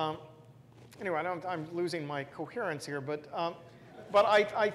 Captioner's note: laugh